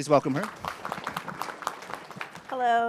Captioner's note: audience clapping